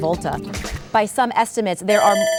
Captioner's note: buzzer ringing